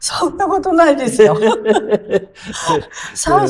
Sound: laughs

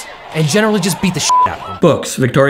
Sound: beep

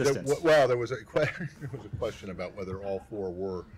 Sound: laughter

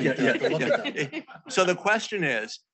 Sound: speakers giggling

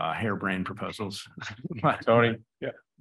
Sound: chuckles

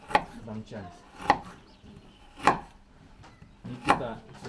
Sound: knife thumping

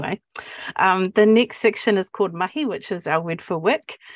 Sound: speaking Maori

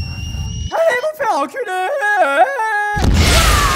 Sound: autotuned voice

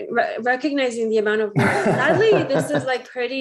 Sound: laughs

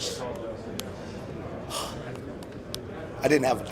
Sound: sighs

